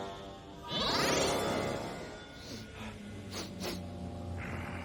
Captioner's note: sniffing